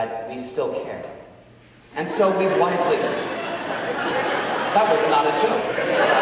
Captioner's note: audience laughing